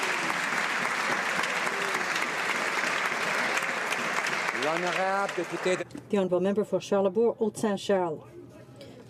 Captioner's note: some Applause